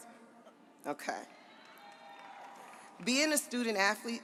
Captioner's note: audience applauds